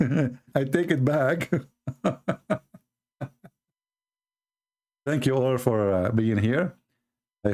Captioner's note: Ketawa